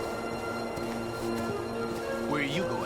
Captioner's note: footsteps